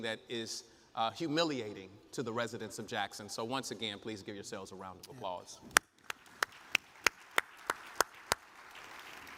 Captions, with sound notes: that is humiliating to the residents of Jackson. So once again, please give yourselves a round of applause. (audience applauds)